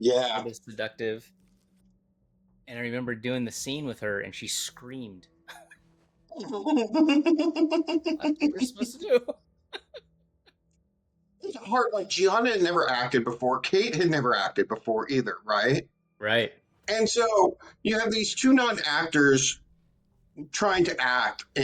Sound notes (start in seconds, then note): 6.3 laughing